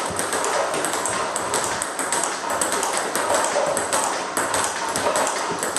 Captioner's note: ball ping pong hitting continues